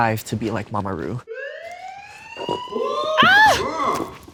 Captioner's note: alarm blaring; Nymphia screams